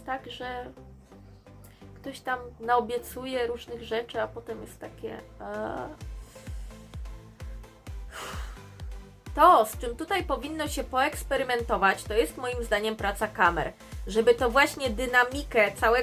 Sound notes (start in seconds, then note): 6.0 inhale and exhale